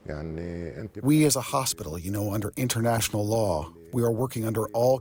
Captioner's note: through translator